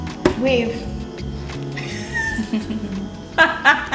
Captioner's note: both laugh